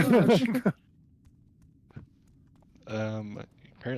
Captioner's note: laughter